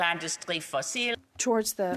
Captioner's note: speaking French